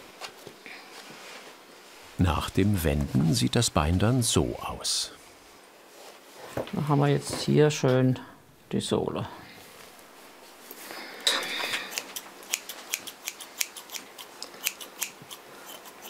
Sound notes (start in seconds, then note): 11.2 clattering scissors